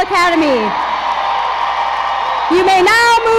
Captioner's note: crowd cheers